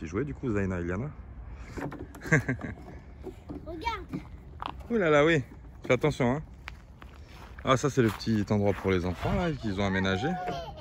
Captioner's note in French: rire